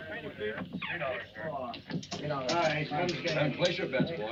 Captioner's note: all chattering